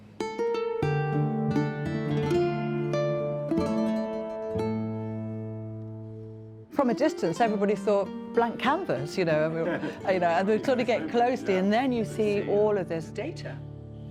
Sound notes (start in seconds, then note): 0.3 solemn string music; 8.9 people chuckling